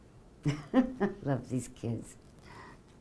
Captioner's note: laughing